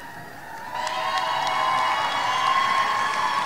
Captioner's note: audience cheering